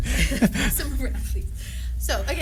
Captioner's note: laughter